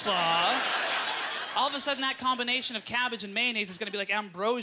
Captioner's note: audience laughter